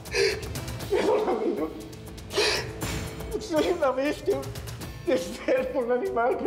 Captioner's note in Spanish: sollozos